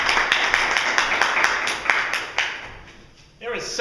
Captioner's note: applause